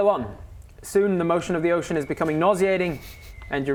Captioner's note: faint whistling